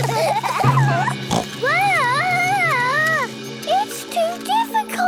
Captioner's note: children giggling; snorts